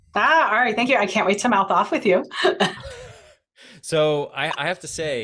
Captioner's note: laughs